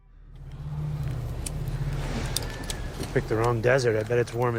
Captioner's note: fire crackles; insects hum